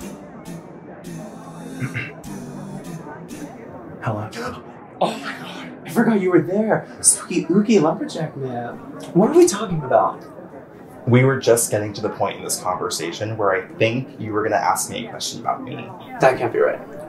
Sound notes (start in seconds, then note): 1.7 clears throat; 5.0 gasps